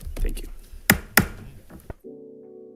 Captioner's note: gavel bangs; bright music